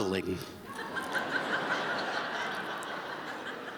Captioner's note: laughter